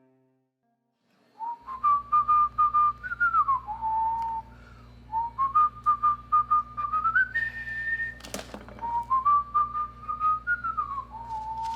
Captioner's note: whistle